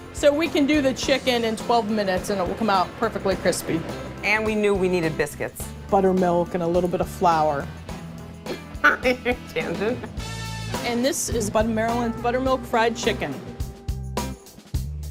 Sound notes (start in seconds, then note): 8.8 laughter